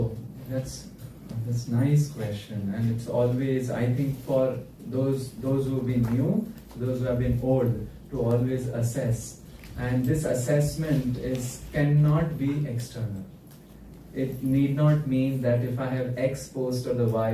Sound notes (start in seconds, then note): none